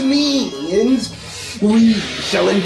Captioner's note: deep breath